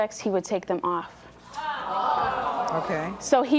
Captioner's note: audience jeering